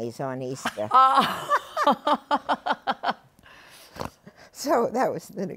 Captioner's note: laughter